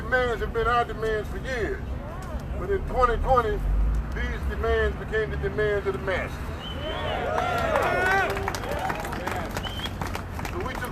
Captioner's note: crowd cheers